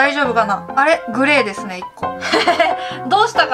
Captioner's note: laughs